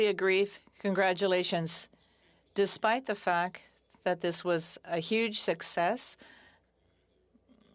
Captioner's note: speaking French